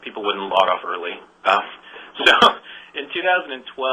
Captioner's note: laughs